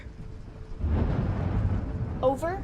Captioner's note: thunder rumbles